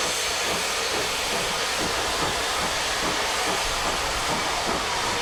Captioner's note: train passes